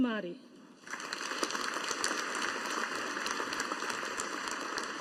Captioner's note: audience applauding